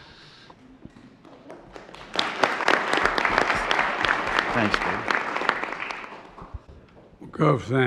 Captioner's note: applause